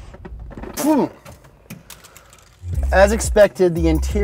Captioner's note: spitting